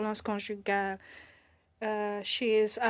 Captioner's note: speaking in French